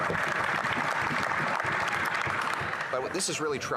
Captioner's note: applause